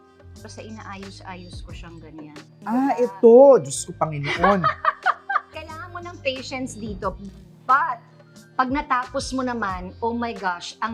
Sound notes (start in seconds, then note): 4.3 chuckles